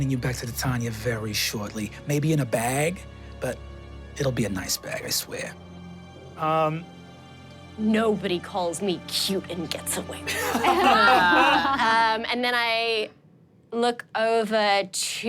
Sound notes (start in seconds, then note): 10.3 everyone laughs